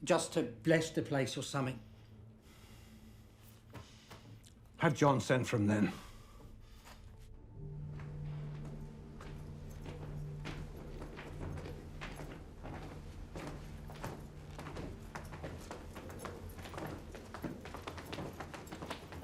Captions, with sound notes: just to bless the place or something. - Have John send for him then. [ominous music] [footsteps approaching]